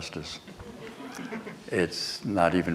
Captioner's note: laughter